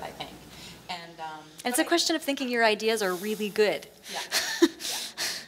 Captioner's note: laughs